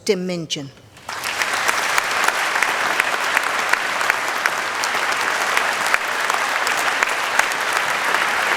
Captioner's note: applause